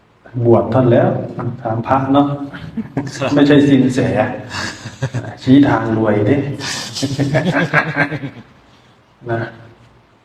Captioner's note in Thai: เสียงหัวเราะ